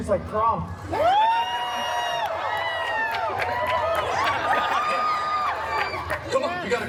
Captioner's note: guests cheering and laughing